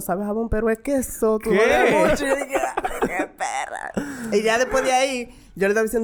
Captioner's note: laughs